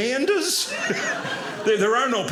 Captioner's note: audience laughing